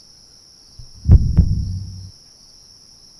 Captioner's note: heartbeat